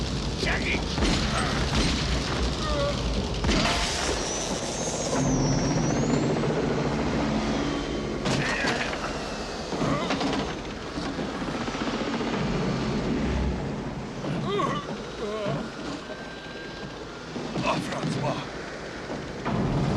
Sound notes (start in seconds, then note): 2.8 gunshots; 5.1 both grunting